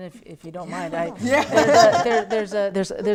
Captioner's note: laughter